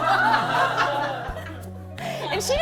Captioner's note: laughter